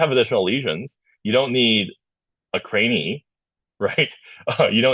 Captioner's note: laughing